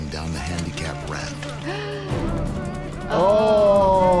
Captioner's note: gasps